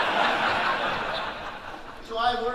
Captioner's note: audience laughing